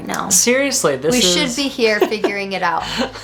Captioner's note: laughs